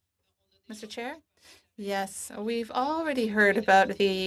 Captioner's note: speaking French